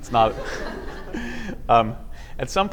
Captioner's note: laughter